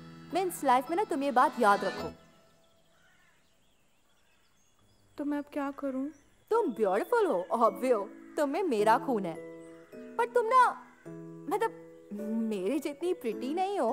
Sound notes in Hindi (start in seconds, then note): none